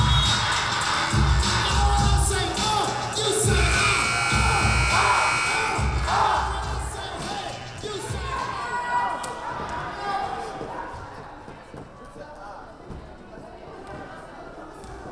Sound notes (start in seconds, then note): 0.1 whistle blowing; 3.4 buzzer buzzing